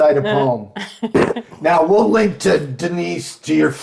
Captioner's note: chuckling